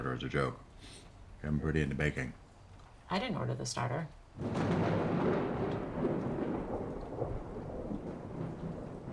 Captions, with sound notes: as a joke, you've gotten pretty into baking. I didn't order the starter. [thunder booms]